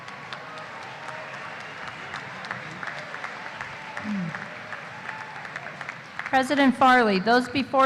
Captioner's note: applause